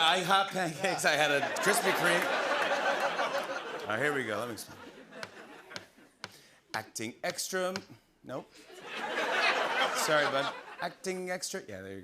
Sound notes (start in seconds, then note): 3.0 laughter; 5.2 tapping; 8.7 laughter